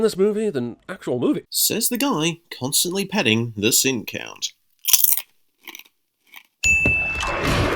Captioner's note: crunch